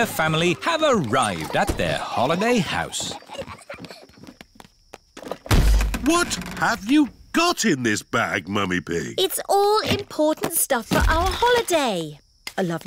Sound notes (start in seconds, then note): 3.8 peppa and george giggling; 5.4 thud